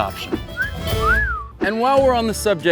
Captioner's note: whistling